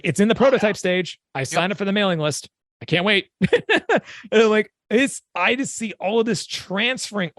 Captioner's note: chuckle